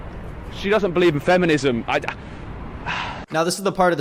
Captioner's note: sighs